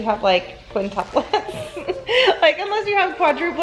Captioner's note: laughing